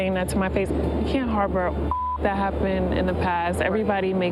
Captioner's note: beep